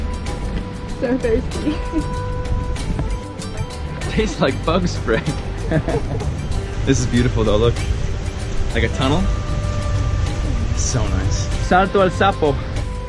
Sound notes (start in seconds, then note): 4.0 laughs; 12.8 jungle music